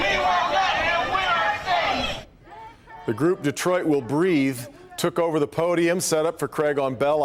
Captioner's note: chanting